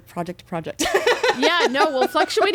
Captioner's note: laughing